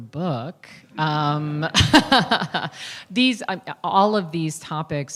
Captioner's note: laughter